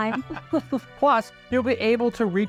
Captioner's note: laugh